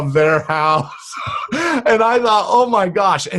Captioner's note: laughs